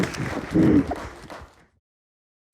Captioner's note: crying